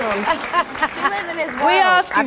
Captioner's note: laughter